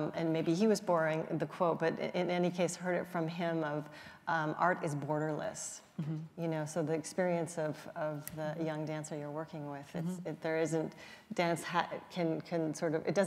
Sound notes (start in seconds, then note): none